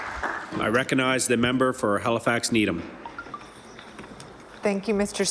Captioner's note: applause